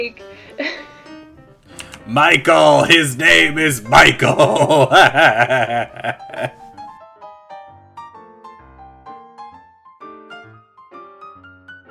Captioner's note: villain laughter